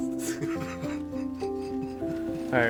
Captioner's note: laughing